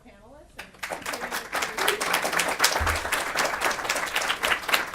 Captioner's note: audience applauds